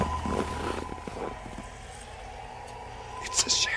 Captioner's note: siren wailing